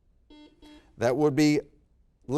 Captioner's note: buzzer beep